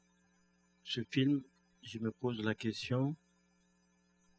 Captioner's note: speaking french